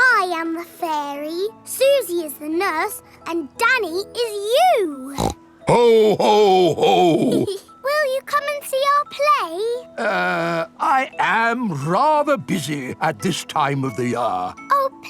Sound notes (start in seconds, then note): 5.1 snorts; 6.7 giggles